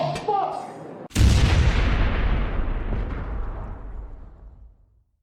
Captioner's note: explosion